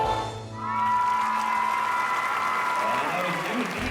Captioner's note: cheering and clapping